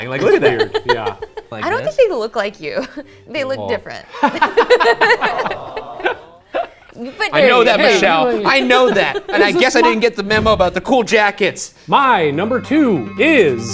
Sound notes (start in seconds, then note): 4.2 laughing loudly